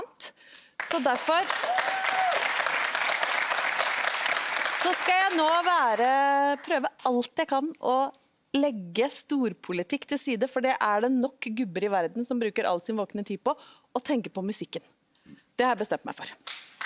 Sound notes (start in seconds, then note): 0.8 applause from the audience